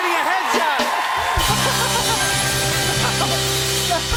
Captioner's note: cheers and applause